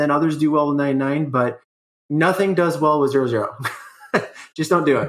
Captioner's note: laughs